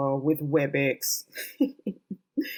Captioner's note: chuckles